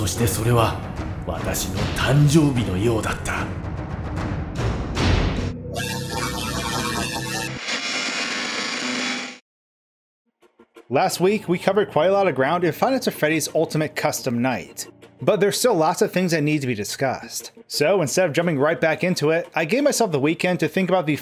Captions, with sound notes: Then again, if he wishes to suffer, maybe there’s a better way… Sister Location 2 - Coming 2019. [Screaming] Last week we covered quite a lot ground in Five Nights at Freddy’s Ultimate Custom Night. But there were still lots of things that needed to be discussed. So instead of jumping right back into it, I gave myself the weekend to think about the